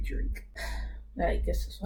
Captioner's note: sigh